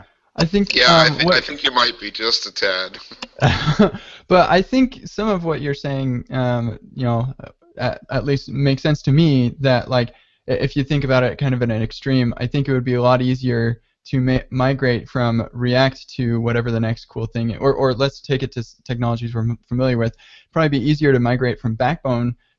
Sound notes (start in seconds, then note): 0.7 chuckles; 3.5 laughs